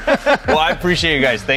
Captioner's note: all laugh